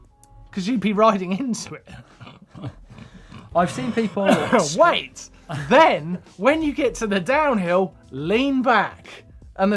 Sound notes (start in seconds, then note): 1.6 laughing